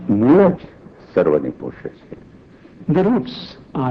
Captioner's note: speaking foreign language